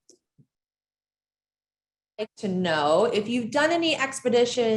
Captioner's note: audio dropout